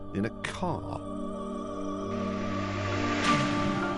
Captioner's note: engine roars